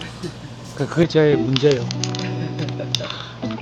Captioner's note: haha